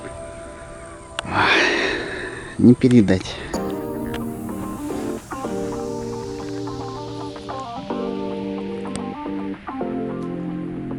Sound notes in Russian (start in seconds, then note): 1.2 вздох